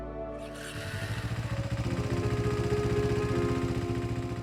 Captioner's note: engine cranking